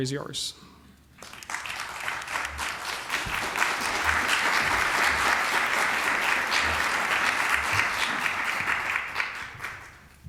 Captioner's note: applause